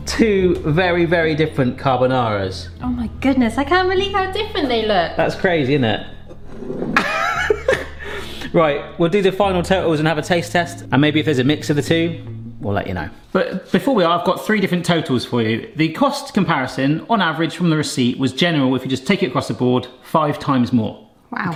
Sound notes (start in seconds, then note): 6.9 laughs